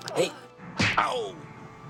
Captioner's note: smack